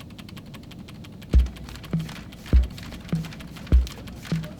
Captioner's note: paper shuffling